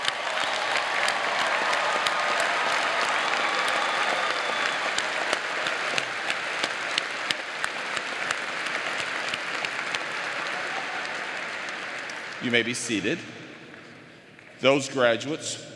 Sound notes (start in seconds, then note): 4.8 applause